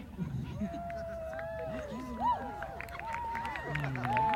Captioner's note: cheers and applause